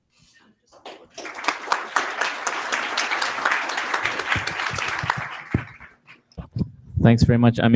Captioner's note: applause